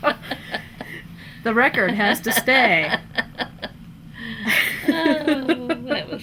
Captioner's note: laughter